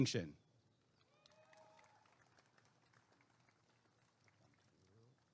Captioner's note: applause and cheering